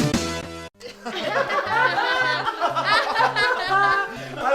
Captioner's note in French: rires